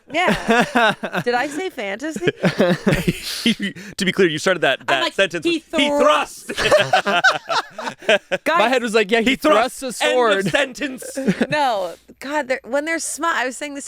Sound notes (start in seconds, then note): 2.1 everyone laughs; 6.5 everyone laughs